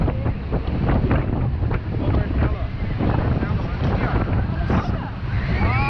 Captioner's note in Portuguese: som do vento com conversas ao fundo